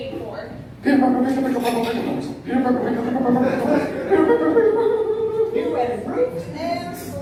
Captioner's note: babbling nervously; laughter